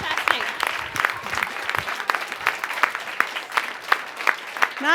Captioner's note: cheering and Applause